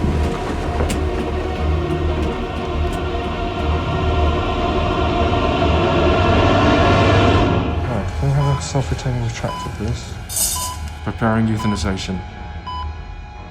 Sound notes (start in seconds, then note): 0.1 suspenseful music; 8.3 heart monitor beeping